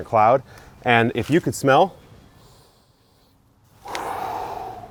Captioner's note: blowing out